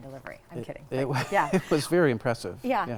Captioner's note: laughing